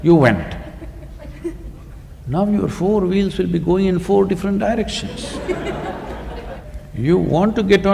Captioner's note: laughter